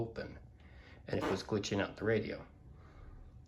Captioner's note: fart